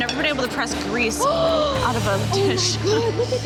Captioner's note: gasps